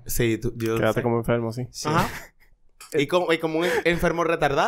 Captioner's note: laughs